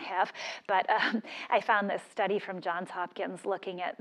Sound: laugh

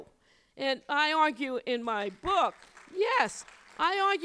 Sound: applause

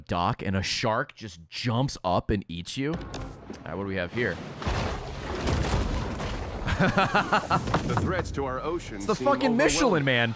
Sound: laughs

